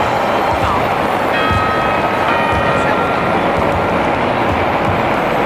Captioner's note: Third quarter bell in Madrid, Spain; Fourth and last quarter bell in Madrid, Spain